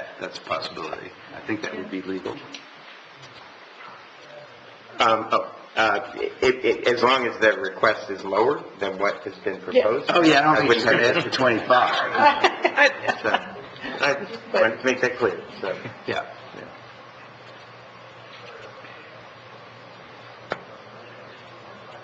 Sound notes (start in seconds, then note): 12.6 laughs